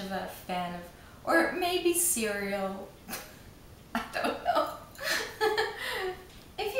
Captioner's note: laughs